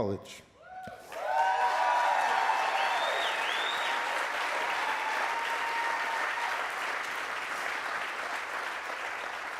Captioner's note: applause